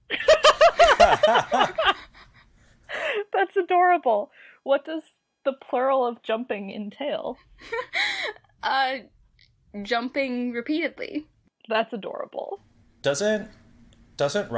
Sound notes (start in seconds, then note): 0.2 laugh; 8.2 laughs